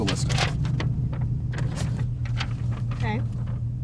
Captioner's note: paper rustling